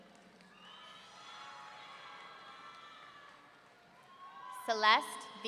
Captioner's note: audience cheering